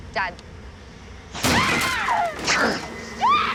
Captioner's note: cris fort